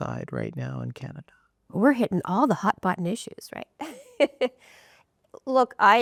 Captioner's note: rires